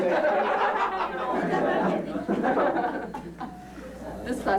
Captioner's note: laughter